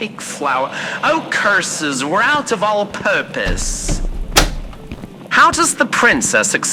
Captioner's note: exits pantry fx